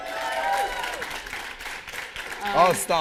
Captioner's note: cheers